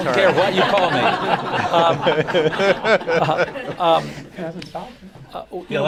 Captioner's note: laughter